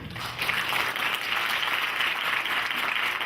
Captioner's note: clapping